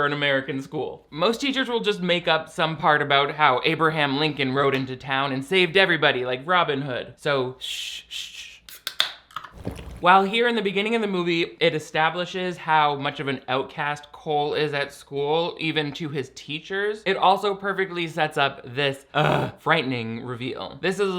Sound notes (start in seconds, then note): 8.8 can tab pops; 9.6 slurps; 19.1 groans